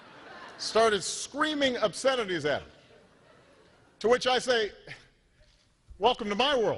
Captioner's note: laughter